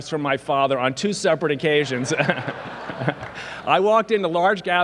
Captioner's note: laughs